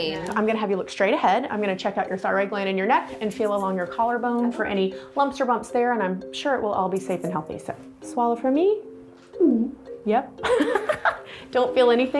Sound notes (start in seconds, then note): 9.4 gulp; 10.4 laughter